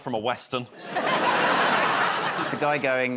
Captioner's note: laughter